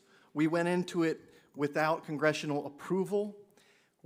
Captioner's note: none